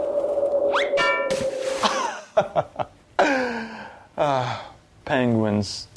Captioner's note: playful sound effects